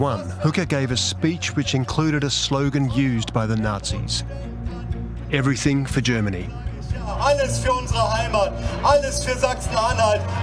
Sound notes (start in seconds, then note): 7.0 speaking German